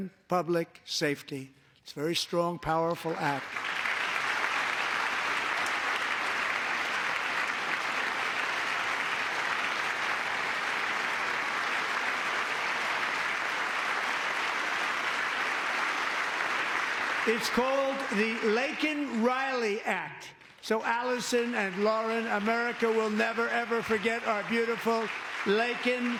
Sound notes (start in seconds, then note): 7.5 applause